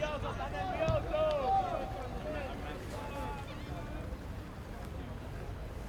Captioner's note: players yelling in foreign language